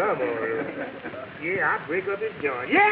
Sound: audience laughing

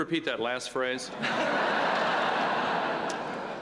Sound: laughter

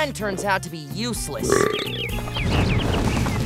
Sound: belching

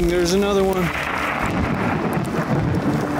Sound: thunder

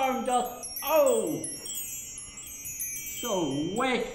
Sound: twinkly sound

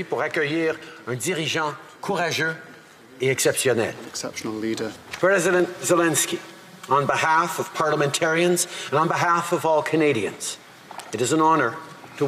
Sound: speaking French

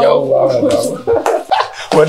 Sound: Abubakar Laughs

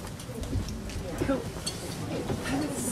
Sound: people chattering

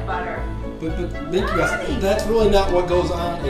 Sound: voiceover

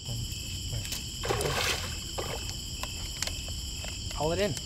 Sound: water splashing

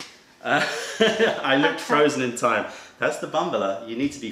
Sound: laughter

